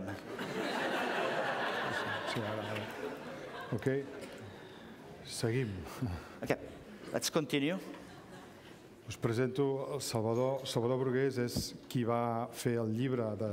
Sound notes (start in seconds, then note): 0.2 laughter; 4.6 speaking catalan; 12.8 speaking catalan